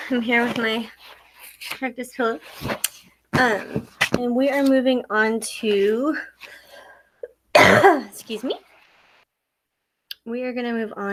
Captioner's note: coughs